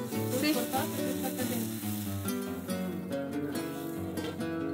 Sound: talking in background

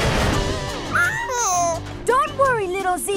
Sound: whimpering

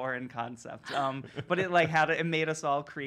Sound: laughter

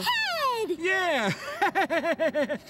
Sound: laughing

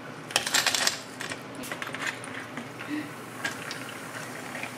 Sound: pouring carbonated water

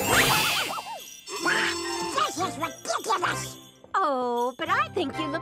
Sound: bell jingling

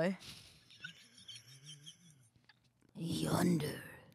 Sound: laughs

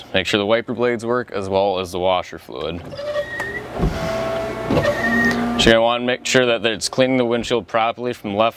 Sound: squeeking of the wiper blades

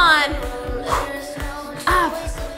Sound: breathes

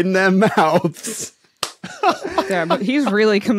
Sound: cackles softly

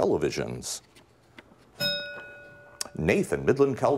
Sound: bell rings

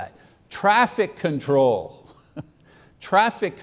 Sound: chuckles

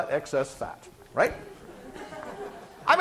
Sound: class laughing

